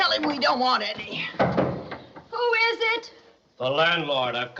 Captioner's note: knocking Continues